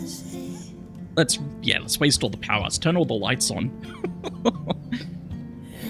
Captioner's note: laughs